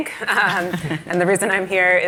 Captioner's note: laughter